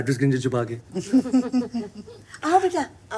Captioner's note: laughter